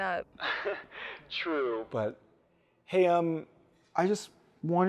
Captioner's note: laughs